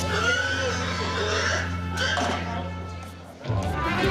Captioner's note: pig squealing